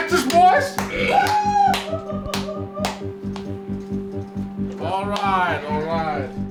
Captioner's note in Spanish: Karrigan aplaude